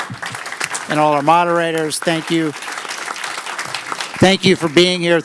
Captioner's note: applause